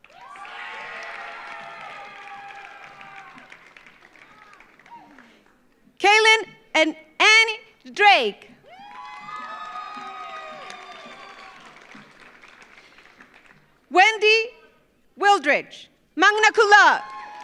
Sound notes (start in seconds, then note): 0.0 audience cheers; 0.0 audience applauds; 8.6 audience cheers; 8.7 audience applauds; 16.8 audience cheers; 17.0 audience applauds